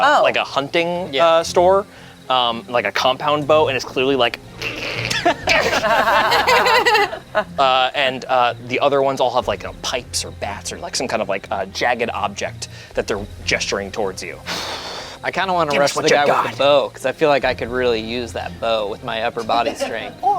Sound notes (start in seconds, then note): 4.7 everyone laughs; 5.2 grunts; 15.7 sighs